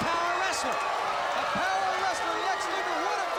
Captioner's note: crowd cheering